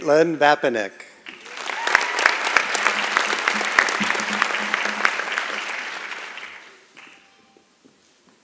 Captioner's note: applause and Cheering